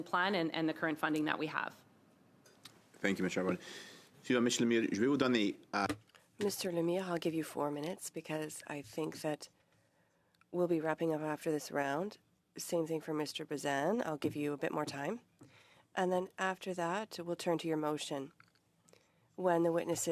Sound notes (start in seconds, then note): 10.8 speaking French